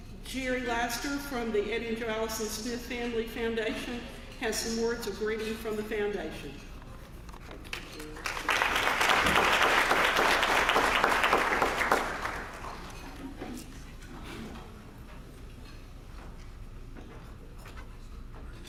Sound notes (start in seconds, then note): 9.7 applause